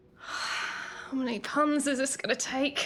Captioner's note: Moira sighing